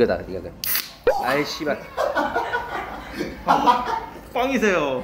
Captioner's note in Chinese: 哈哈哈哈哈哈哈哈哈